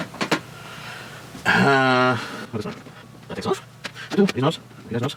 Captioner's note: man murmuring